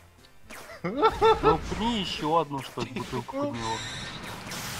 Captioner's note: laughter